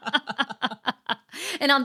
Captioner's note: laughing